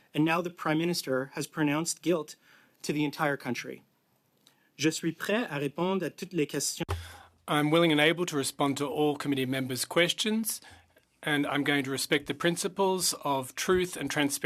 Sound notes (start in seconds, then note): 12.2 speaking French